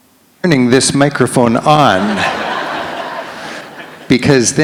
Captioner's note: audience laughs